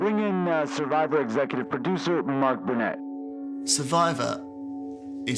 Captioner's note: soundbite of archived recording